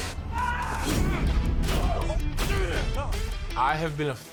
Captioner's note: screaming; grunting